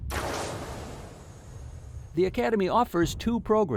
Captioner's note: gun fire shoots